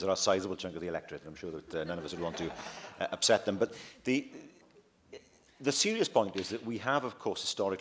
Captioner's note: laughter